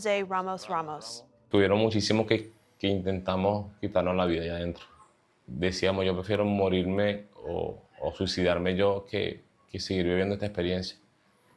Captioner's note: speaking spanish